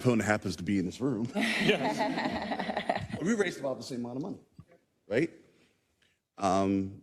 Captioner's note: laugh